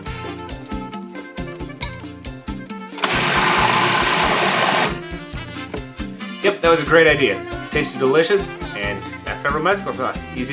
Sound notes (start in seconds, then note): 2.9 food processor whirring